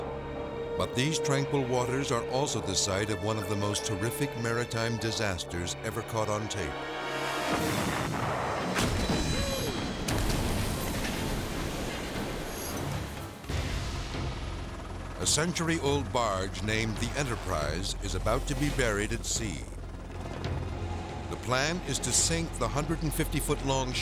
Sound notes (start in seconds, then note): 7.7 explosions booming; 13.7 propellers whirring